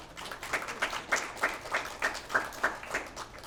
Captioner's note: applause